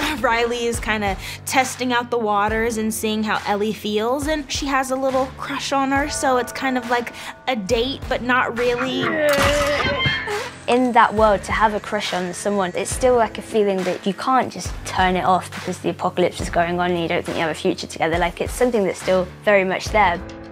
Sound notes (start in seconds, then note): 8.7 both growl